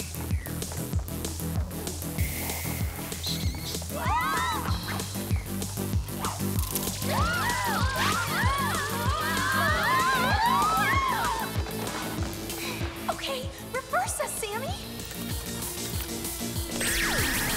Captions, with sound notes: [ALL SCREAMING] Okay, reverse us, Sammy!